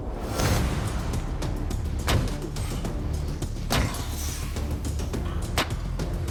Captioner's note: blade impacts